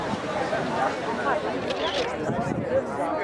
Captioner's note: sound: Camera Shutter